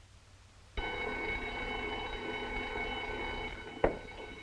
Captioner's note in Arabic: رنين المنبه